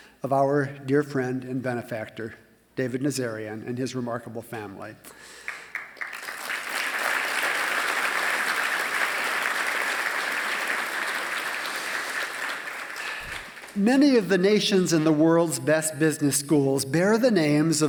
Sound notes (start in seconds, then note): 5.3 applause